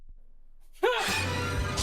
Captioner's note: yells